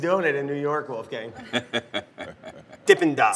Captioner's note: laughs